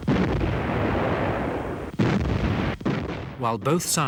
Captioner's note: explosions booming